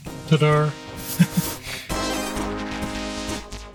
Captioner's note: laughs; upbeat electronic music